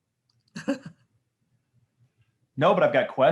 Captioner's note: laughs